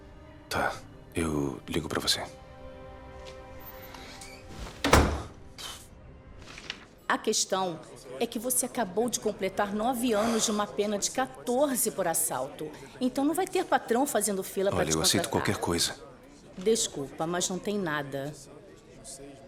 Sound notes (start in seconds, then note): 4.0 door closes; 5.5 sighs